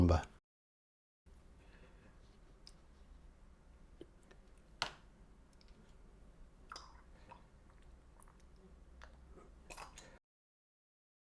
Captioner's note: silence